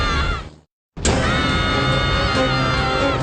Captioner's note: screaming